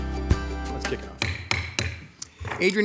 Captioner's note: gavel bangs